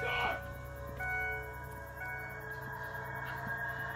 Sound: car beeping

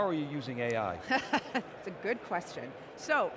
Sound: laughs

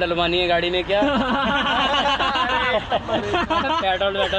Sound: laughs

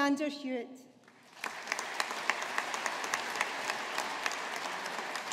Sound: audience applauding

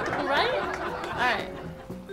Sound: fake audience laughter

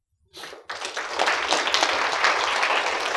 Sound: applause

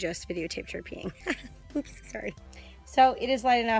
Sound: laughs

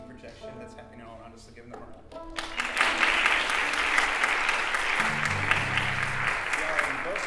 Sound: applause

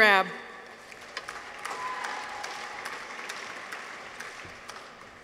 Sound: audience applauds

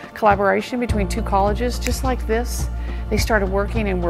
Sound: snap

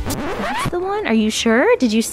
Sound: record scratches

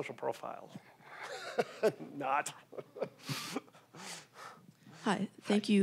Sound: laughing

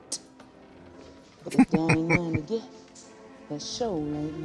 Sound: laughing

